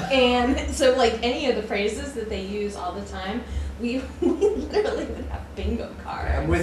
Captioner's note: laughter